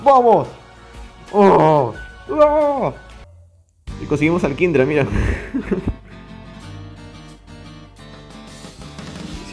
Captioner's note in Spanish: Gritos de ahogo